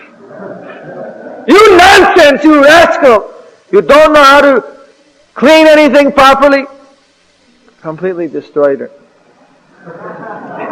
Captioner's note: laughter; laughter